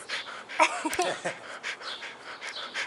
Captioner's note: laughter